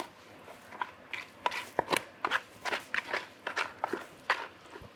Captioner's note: spatula scraping